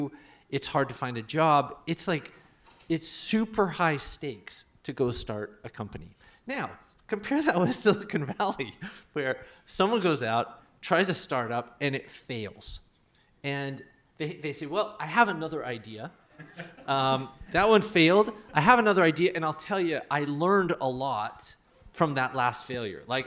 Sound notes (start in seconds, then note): 8.6 laughs; 16.3 laughter